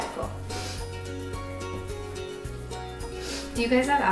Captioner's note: sniffling